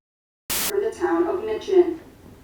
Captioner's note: camera buzzing